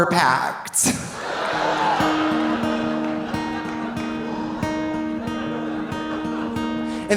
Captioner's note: audience laughing; audience cheering